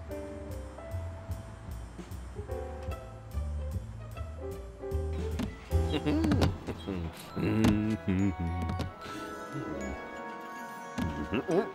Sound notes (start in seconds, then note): 5.8 mumbles happily